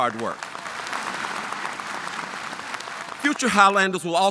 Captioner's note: audience applauding